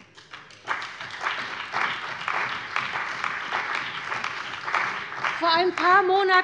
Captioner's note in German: Beifall bei der CDU und dem BÜNDNIS 90/DIE GRÜNEN